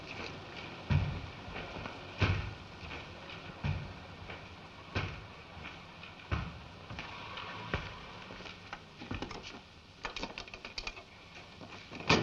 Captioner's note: thudding footsteps approaching